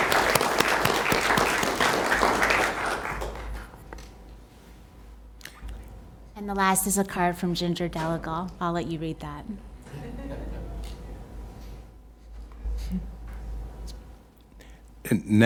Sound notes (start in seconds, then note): 4.6 applause